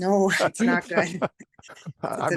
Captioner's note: laugh